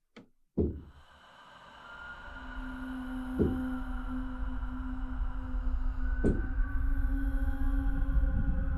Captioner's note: footsteps